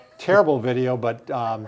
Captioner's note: chuckles